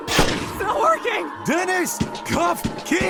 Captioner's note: gunshots